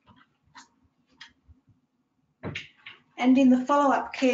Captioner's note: drawer closing